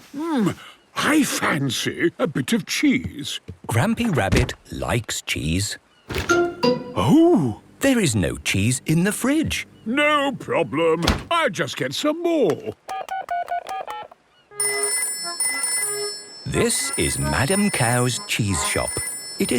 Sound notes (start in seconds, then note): 12.8 dial tone; 14.6 phone rings